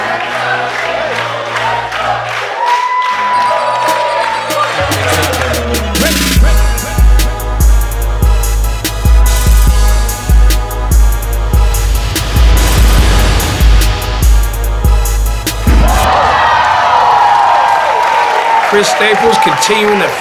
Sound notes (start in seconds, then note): 0.0 crowd chanting; 5.5 intense music; 15.6 crowd